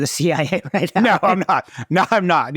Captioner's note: both chuckling